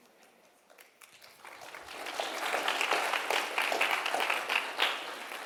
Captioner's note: audience clapping